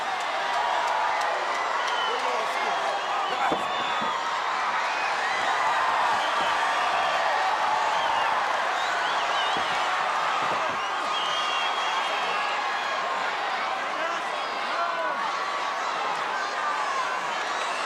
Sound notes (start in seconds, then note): 0.2 audience cheering; 13.0 audience chattering